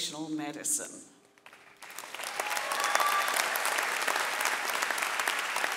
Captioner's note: audience cheering and clapping